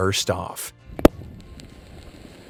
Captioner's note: lid pops; ravioli sizzles